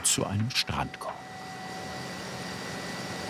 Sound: machine noises

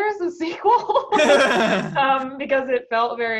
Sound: laughing

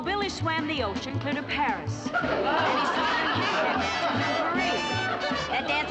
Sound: laughter

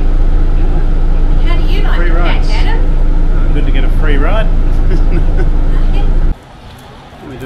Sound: laughing

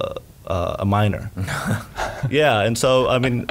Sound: laughing

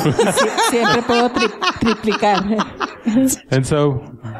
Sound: laughter

